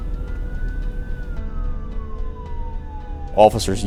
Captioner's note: siren